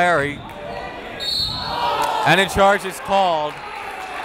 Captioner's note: whistle blowing